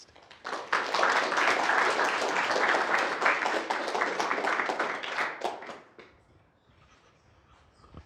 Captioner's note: applause